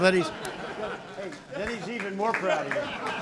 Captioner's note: laughter